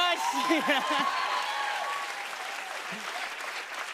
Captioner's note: applause